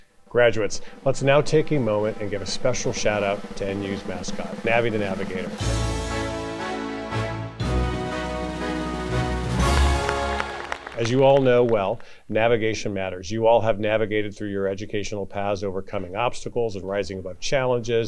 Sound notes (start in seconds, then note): 6.0 upbeat music; 8.5 audience applauds